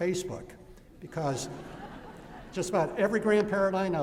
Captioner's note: laughter